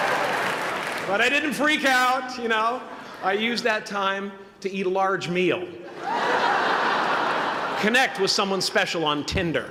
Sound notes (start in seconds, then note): 5.8 laughter